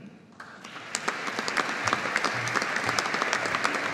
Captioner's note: audience applauding